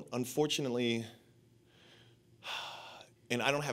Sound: sighs

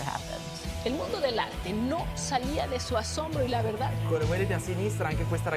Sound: speaking in foreign language

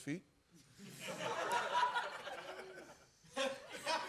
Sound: laughter

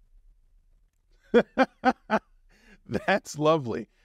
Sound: laughing

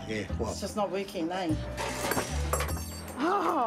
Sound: rattling; laughs

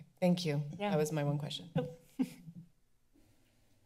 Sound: chuckles

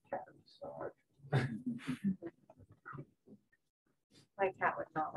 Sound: laughter

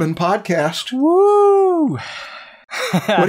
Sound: laughs

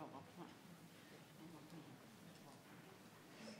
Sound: people chatter

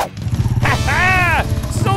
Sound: laughing

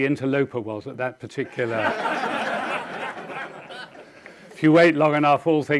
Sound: audience laughing

